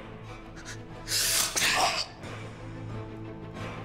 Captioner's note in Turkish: Hançer çekme sesi; Müzik - Gerilim